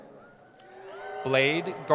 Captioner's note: cheering